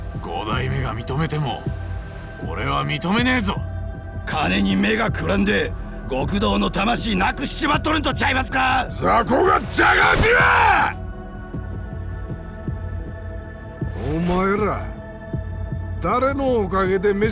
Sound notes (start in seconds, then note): 11.1 shouting